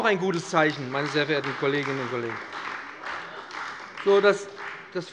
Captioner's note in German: Beifall bei dem BÜNDNIS 90/DIE GRÜNEN und der CDU